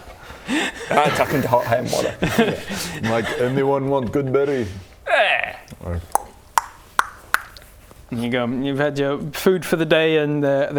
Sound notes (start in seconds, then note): 6.0 cluck cluck cluck cluck